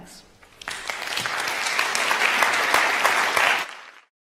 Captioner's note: applause